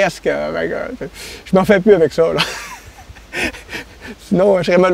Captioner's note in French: rire